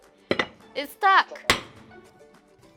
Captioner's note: slams!